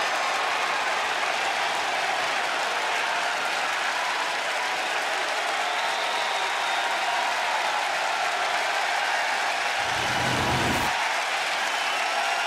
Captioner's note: cheers and applause